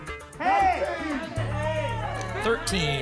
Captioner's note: audience shouting numbers